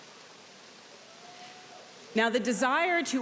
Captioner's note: audience cheering